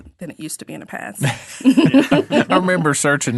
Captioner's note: all laughing